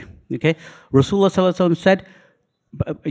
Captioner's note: speaking foreign language